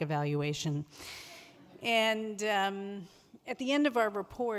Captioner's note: audience laughs